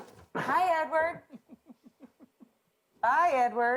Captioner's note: Dan snickering